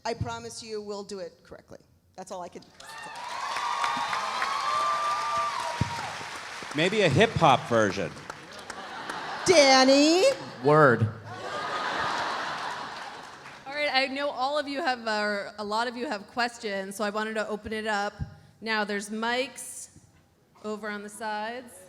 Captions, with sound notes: I promise you we'll do it correctly. That's all I can say. (audience cheering) (audience applauding) - Maybe a hip hop version. (audience laughs) - Danny! - Word. (audience laughs) (audience applauding) - All right, I know all of you have, or a lot of you have questions so I wanted to open it up. Now, there's mics over on the sides.